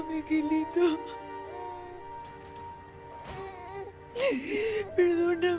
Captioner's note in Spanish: Sollozos